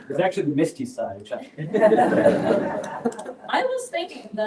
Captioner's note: laughter